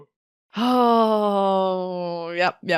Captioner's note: sigh